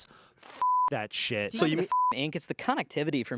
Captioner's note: beep